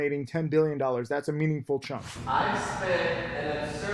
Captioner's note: air whooshes